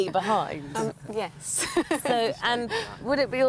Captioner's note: laughing